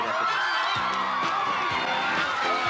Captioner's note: cheering